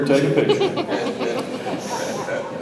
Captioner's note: audience chuckles